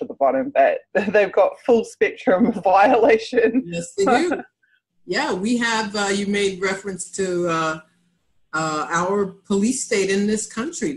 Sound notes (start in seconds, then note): 4.0 laughs incredulously